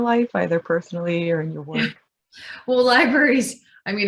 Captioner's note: laughs